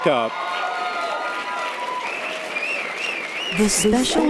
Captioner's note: audience applause and cheers